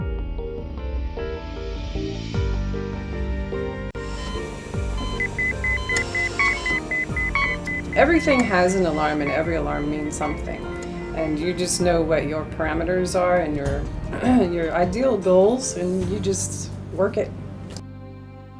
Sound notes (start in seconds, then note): 0.1 melancholy music; 4.0 medical devices beeping